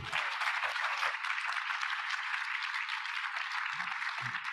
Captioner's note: audience applauding